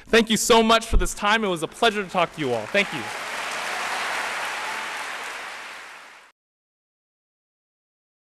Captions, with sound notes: Thank you so much for this time. It was a pleasure to talk to you all. Thank you. [APPLAUSE]